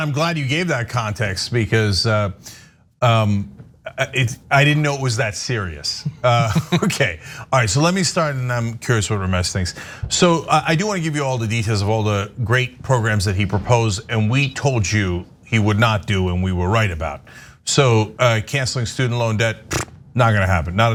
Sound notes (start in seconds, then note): 6.0 laugh